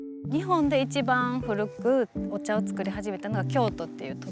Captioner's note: speaking Japanese